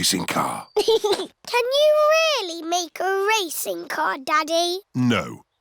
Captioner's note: chuckles